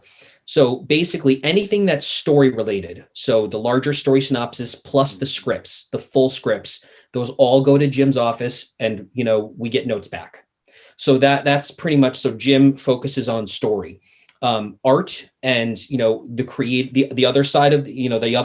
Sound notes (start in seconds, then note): none